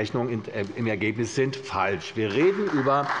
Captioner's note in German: Beifall bei der CDU